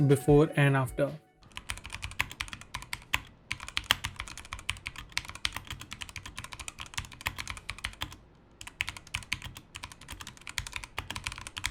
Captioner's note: sound of the keyboard before modding